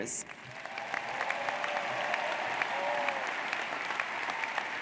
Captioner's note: audience cheers